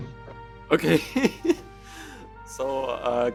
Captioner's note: посмеивается